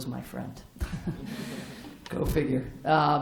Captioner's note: laughter